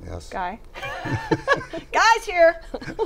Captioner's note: laughter